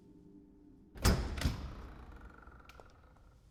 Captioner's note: door Opens